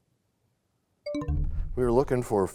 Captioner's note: bell chimes, time expires